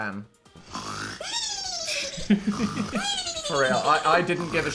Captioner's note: cat snoring; Phil laughing